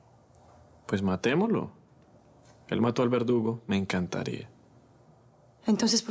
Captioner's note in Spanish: none